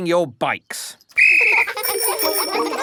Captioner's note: blows whistle; giggling and ringing bells